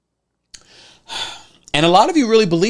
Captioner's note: sighs